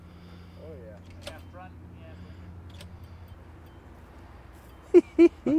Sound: blinker clicking; laughs

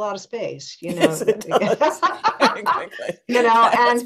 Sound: laughs

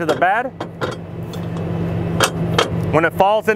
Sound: metal clacks

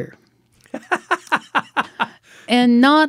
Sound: laughing

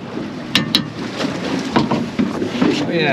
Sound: clank, clank; thump, thump

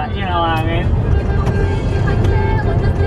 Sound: honking horn

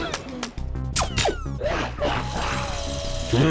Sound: screams; electronic blasting

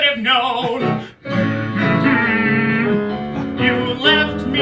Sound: angry humming

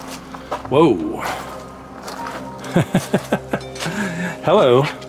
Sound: laughter

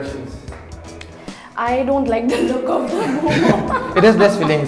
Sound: laughs

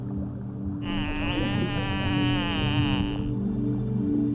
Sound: dolphin calls

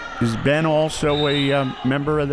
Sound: whistle

